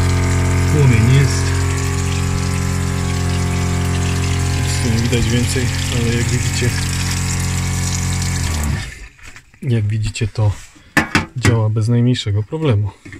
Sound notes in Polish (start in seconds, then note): 1.6 odgłos pompy wody